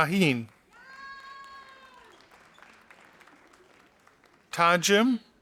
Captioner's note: audience applauding